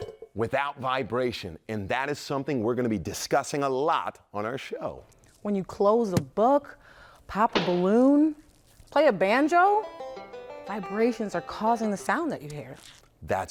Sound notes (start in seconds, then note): 7.5 balloon popping; 7.5 book thudding; 9.3 banjo music